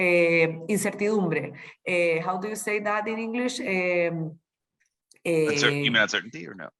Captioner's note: speaking spanish